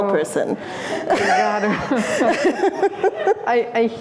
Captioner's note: laughter